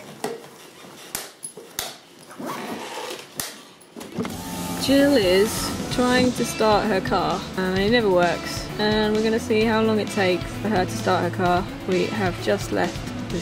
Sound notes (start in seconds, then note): none